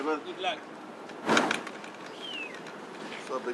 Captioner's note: luggage clinks